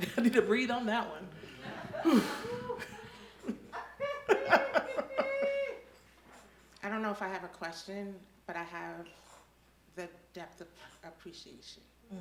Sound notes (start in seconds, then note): 1.4 audience laughing; 4.3 laughs